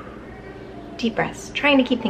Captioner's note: exhales